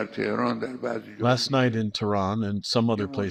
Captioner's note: through translator